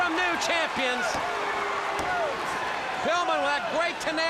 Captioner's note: crowd cheering